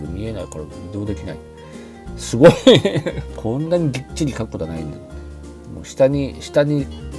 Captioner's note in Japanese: 笑い